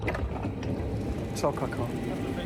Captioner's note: speaking German